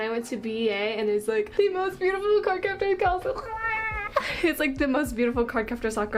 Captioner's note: chokes